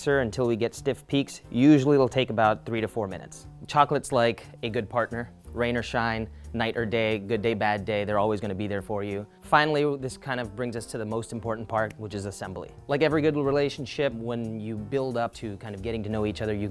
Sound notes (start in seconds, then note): none